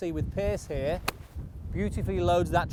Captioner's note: golf shot thwacks